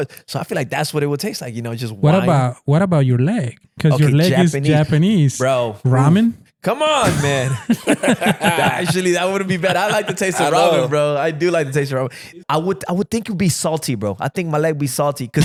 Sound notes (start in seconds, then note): 6.8 laughing